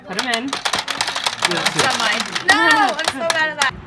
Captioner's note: clicking noises